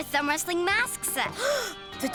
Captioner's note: gasps